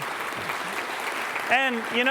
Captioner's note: applause